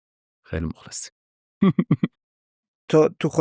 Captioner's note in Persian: خنده